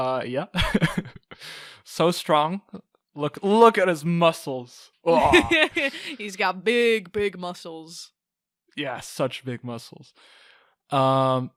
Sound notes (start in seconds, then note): 5.1 laughing; 5.1 strong sound effect, like arghgh